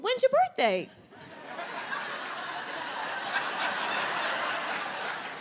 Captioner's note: audience laughs